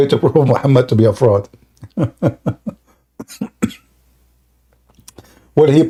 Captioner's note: Ketawa